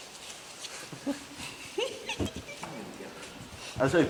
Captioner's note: chuckles